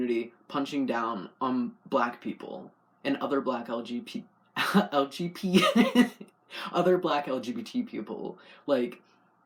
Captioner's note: laugh